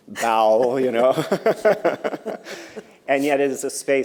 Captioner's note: laughter